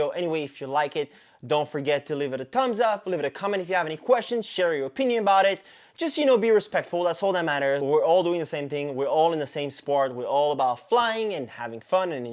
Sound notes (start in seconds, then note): none